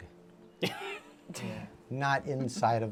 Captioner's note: laughter